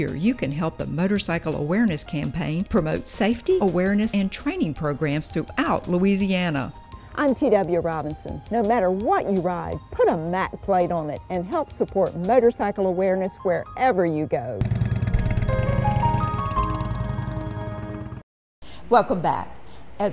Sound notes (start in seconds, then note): 14.6 motorcycle whirring; 15.1 bright music